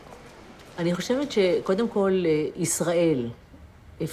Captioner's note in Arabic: الصوت المنطوق باللغة العبرية